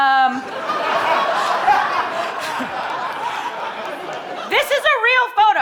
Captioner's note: audience laughing